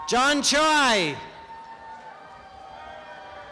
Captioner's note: applause and cheering